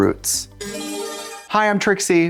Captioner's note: bright chime